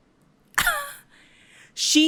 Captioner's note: scoffs